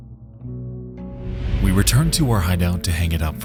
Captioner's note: air whooshing